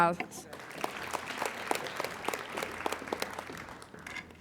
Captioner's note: applauding